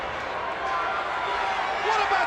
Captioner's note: crowd cheering